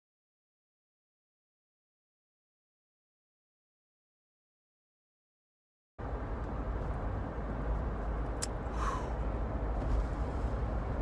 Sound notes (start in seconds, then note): 6.0 car humming